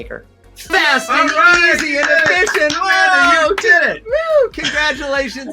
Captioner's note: hosts cheer